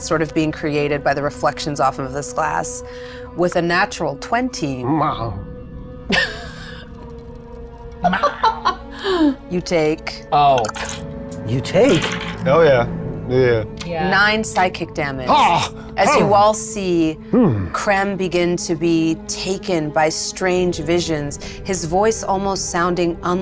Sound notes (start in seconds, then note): 4.9 groans; 6.2 laughs